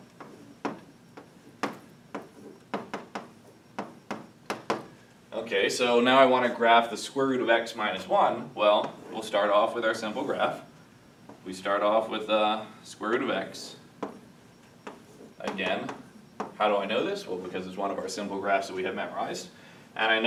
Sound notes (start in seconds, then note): 0.1 chalking hitting blackboard